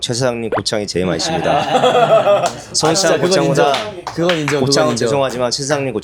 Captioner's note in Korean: 웃음